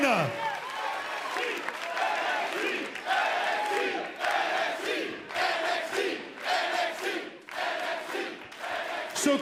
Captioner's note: crowd cheering